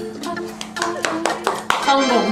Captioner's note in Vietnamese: Vỗ tay